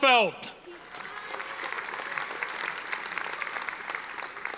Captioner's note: audience applauding